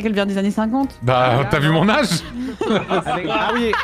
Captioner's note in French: rires